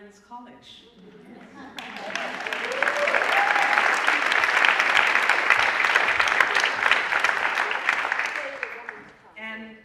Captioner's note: applause